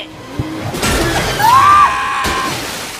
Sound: screams

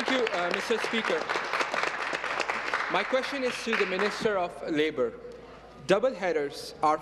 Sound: applause

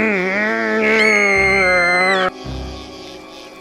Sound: screams

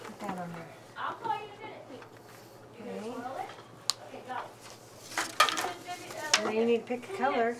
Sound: background chatter

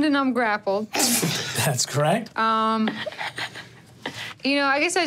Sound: players chuckling

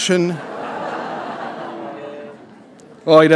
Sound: laughter

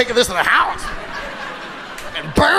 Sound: audience laughing

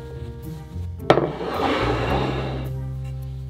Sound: plate sliding

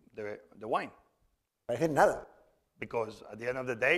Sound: speaking spanish

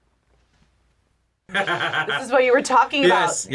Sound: laughs

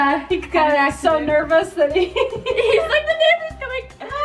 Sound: laughing

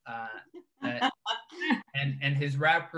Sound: laughs

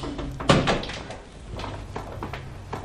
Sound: door closing

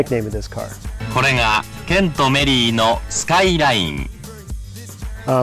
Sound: anouncer in japanese

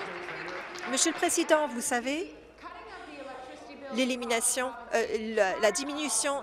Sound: applause

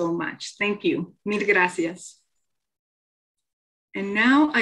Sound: speaking in foreign language

